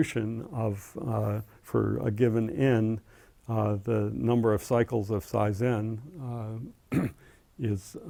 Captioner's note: cough